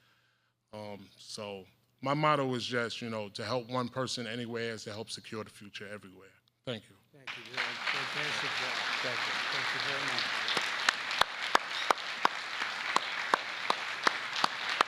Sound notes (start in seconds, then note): 7.2 applause